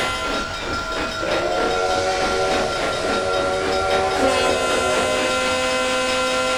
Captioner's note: American Freedom Train whistle